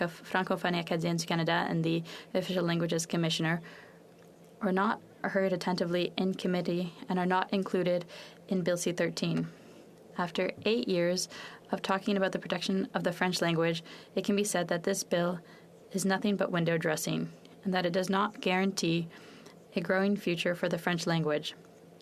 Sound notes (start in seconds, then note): 6.2 french